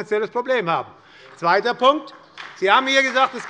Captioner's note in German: Beifall bei der SPD